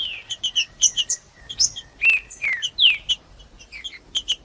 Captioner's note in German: trinca ferro cantando